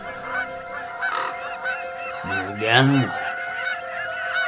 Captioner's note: birds chirping